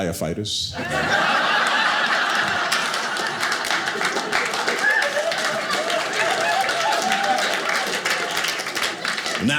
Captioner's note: audience laughing